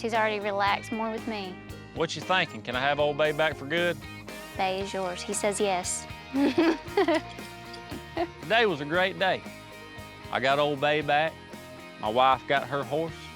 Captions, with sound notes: HE'S ALREADY RELAXED MORE WITH ME. WHAT YOU THINKING? CAN I HAVE OLD BAY BACK FOR GOOD? BAY IS YOURS, HE SAYS YES. [GIGGLING] TODAY WAS A GREAT DAY. I GOT OLD BAY BACK, MY WIFE GOT HER HORSE.